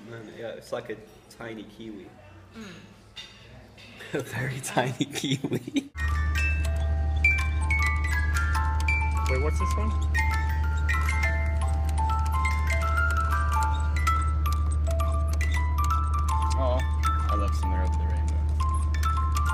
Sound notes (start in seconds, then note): 4.2 laughs